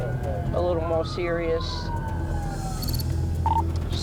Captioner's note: sirens